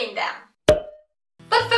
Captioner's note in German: Plop Geräusch